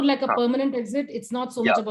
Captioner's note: speaks softly